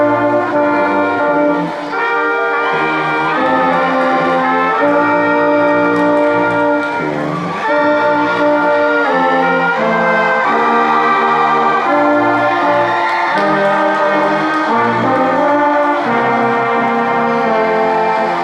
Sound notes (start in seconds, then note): 4.3 crowd cheering and applauding